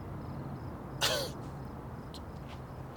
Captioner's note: scoffs